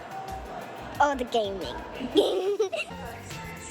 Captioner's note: laughs